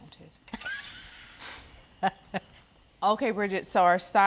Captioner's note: Bridget chuckles